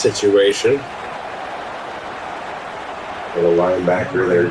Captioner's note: crowd Noises